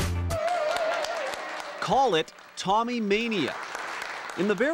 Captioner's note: cheering